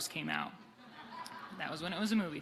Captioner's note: audience laughing